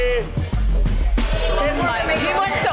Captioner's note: patrons cheering